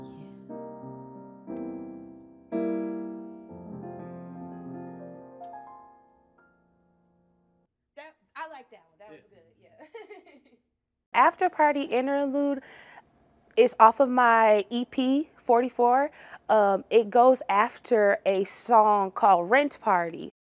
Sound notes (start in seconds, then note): 6.0 soft piano music continues; 14.6 laughs